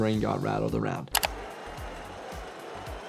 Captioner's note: transition clicks; crowd cheers; upbeat music